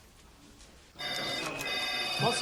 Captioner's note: telephones ringing